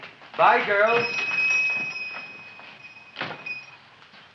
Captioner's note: shop bell dings